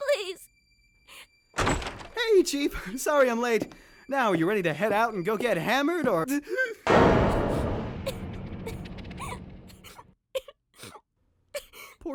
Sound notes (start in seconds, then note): 5.9 quiet sobbing; 6.4 gasp